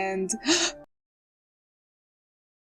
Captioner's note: gasp